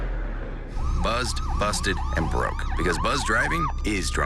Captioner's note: police sirens